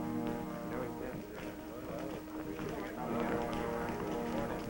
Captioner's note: chatter